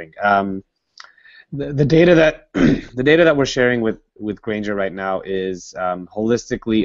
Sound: cough

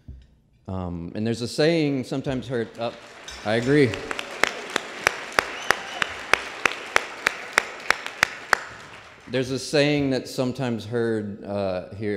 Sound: applause

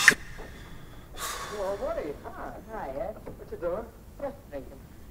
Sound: TV plays in background

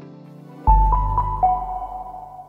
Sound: chiming tones

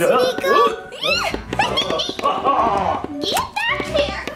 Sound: Dracula laughing; squealing

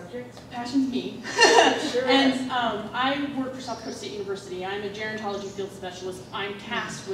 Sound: laughing

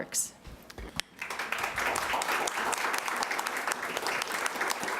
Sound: applauding

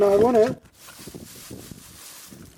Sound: crushing sounds coming out of the bag

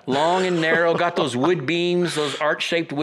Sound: laughs

